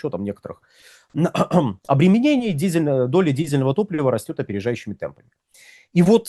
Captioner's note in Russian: откашливается